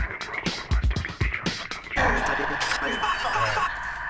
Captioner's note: static